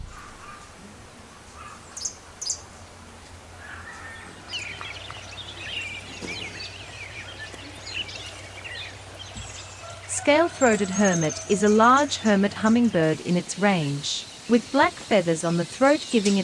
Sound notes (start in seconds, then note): 0.0 bird chirping; 0.2 light wind blowing; 4.6 birds chirping; 4.6 birds singing